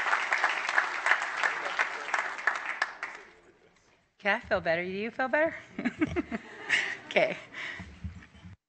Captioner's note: applause